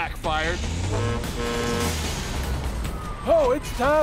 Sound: horn honking

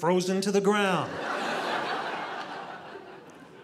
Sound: audience laughing

